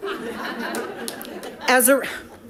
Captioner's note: audience laughing